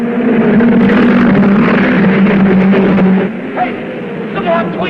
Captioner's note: cars revving